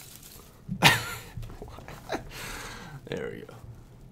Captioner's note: laughter